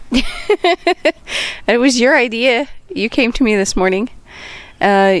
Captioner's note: laughing